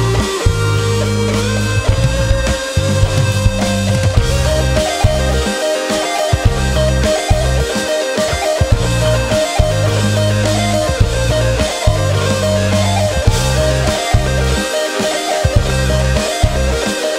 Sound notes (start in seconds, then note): none